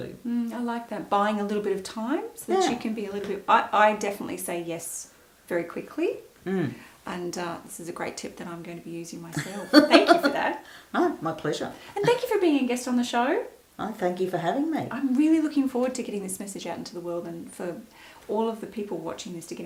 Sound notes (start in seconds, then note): 9.3 laughs